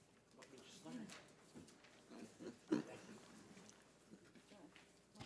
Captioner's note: members chattering